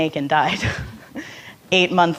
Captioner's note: laughing